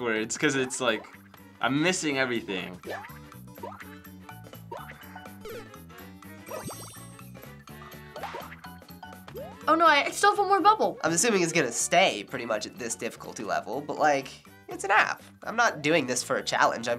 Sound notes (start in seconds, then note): 4.7 blip, Mario grunts; 8.2 pop